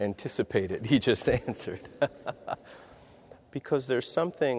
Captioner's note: laughs